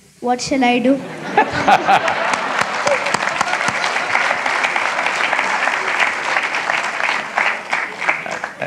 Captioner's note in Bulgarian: аплодисменти